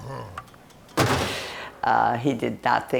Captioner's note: slam!